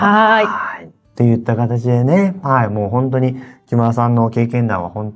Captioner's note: laughs